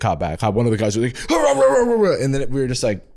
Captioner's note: yell-barking